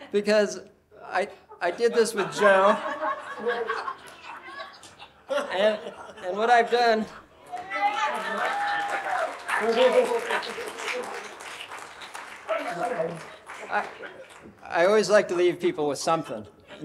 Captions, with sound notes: because I did this with Joe. (audience laughing) - And what I've done- (audience cheering) I always like to leave people with something.